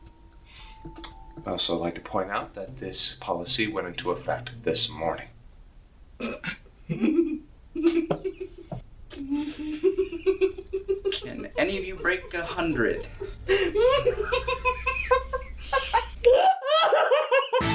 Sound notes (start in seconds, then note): 6.8 snickering; 12.1 continues to laugh